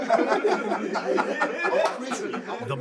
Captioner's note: all laughing